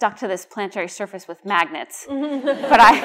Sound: laughter

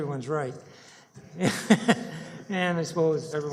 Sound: laughter

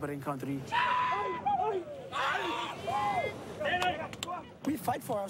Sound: all hooting

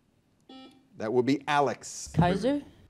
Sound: buzzer dings

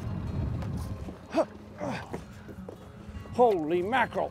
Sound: grunting

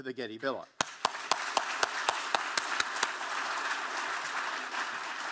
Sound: audience applauding

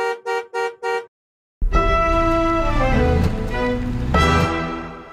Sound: car horn honking and quirkly music

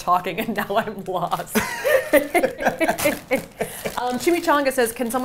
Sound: both laughing

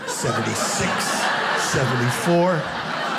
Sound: audience laughing

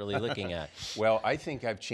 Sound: laughs

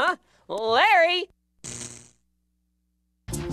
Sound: electricity crackles

